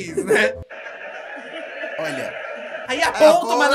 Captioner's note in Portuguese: risos